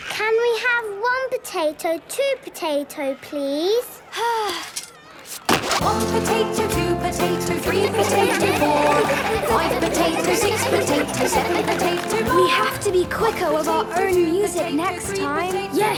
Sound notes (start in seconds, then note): 4.2 Belinda sighing; 7.5 laughter